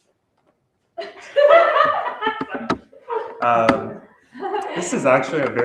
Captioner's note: laughter